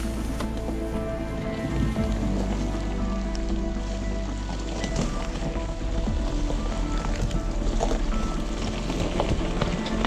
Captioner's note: car Sound